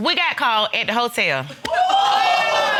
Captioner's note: audience exclaims